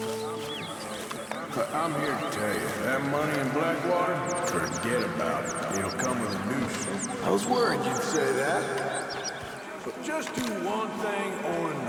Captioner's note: distant, echoey voices